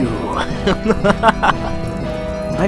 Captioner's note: laughter